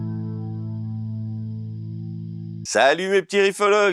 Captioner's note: laughs